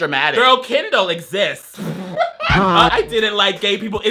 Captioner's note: laughs